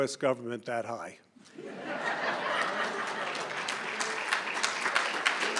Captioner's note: laughter